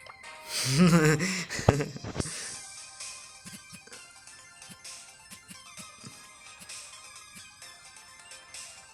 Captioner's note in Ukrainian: сміється